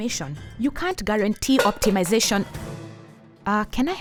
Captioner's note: clattering